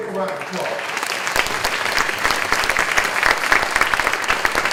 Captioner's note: clapping